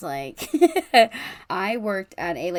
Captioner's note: laughs